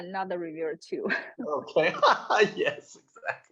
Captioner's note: all laughing